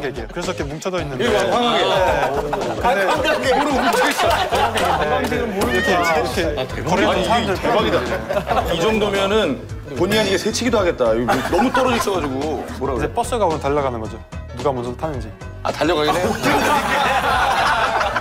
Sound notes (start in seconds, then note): 3.3 hehehe; 4.6 laughing and clapping